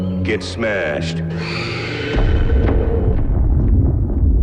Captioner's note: woman screams